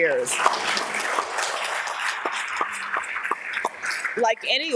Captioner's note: audience applauds